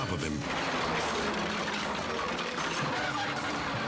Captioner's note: metal crashing